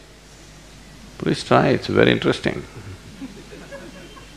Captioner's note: laughter; 笑聲